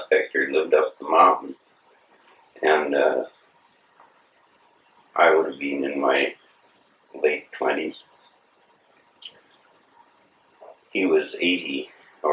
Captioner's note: laughs